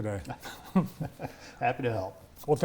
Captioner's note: laughing